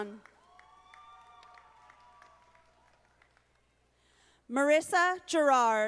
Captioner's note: audience applauding